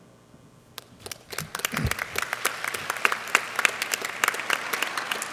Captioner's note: clapping